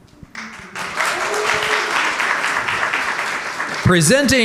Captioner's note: audience cheering and applauding